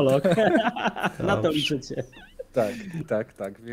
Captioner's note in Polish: śmiech